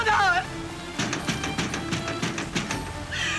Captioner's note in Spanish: Toques en la puerta